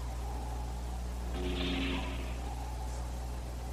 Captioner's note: door Whooshing